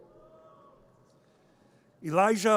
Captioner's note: audience cheers